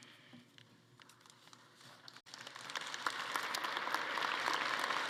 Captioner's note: attendees applauding